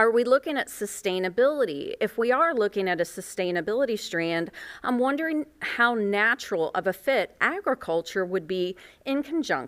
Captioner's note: none